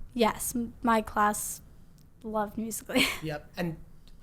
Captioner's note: laughs